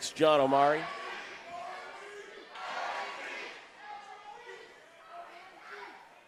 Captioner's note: crowd screaming on the background